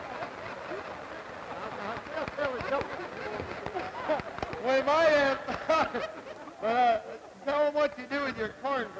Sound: jokes and laughing

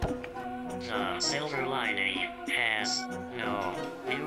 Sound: robot Voice

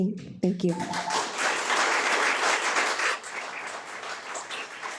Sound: audience applauds

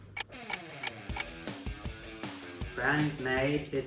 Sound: rock music; clock ticking

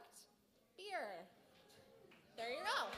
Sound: applause

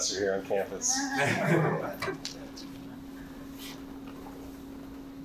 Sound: participants laughing

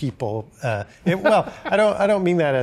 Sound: laughing

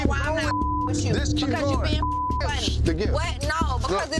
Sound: beep

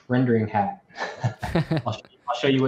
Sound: both chuckle

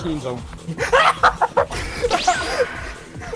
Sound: mega laugh

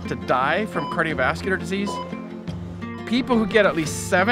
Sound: monitor beeps

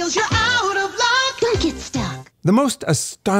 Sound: voiceover

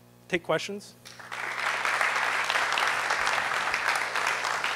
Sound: applause

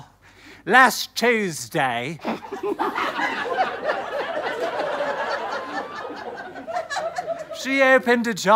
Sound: stifled giggles

